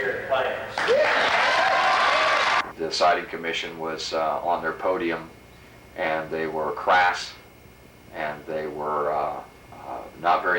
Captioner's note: applause